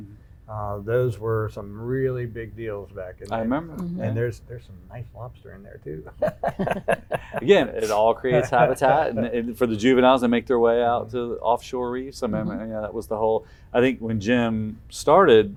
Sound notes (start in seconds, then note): 5.4 laughing